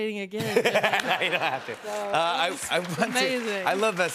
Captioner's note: laughter